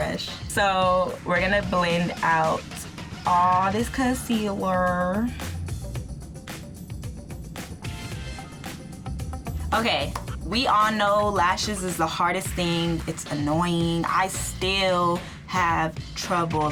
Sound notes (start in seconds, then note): 5.2 funky music; 10.0 claps